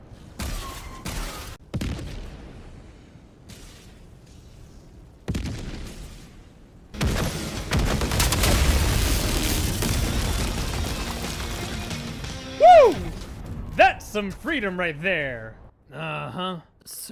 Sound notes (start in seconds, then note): 1.6 Walker firing; 1.7 explosion; 2.3 silence; 5.2 explosion; 6.9 explosions